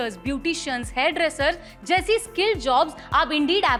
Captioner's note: speaking hindi